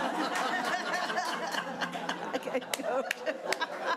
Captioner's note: audience laughing